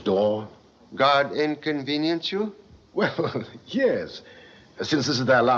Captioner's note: chuckles